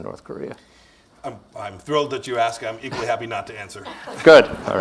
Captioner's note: laughter